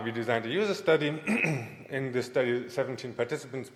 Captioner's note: clears throat